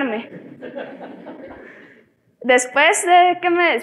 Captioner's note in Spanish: Risas